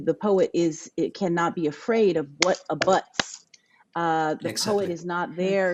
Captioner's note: clapping